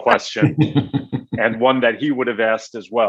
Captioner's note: attendees laughing